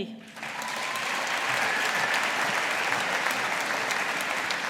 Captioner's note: audience applauding